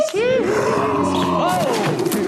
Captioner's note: dinosaur roars